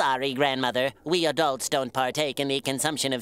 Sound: laughing

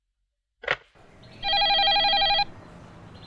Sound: phone rings

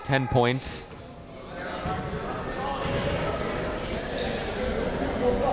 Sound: people talking in the crowd

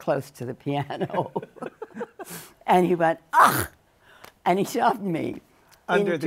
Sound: laughs

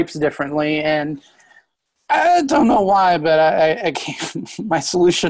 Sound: laughs

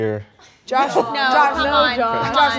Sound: all laughing

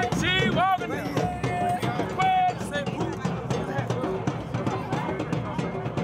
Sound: speaking in foreign language

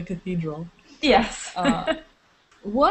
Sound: laughter

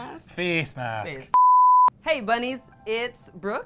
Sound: beep

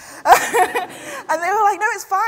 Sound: laughs

